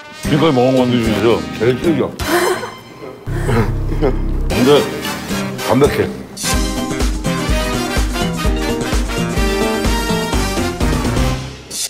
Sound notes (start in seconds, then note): 2.2 laughing